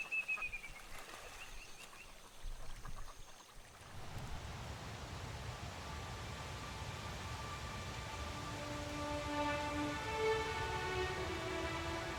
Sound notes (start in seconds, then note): 4.0 wind whistling; 9.4 slow music begins